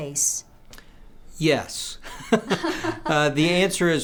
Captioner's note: chuckles